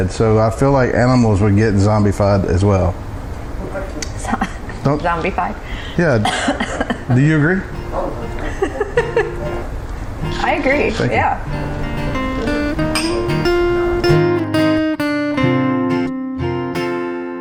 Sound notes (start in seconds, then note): 4.3 choking; 12.2 guitar music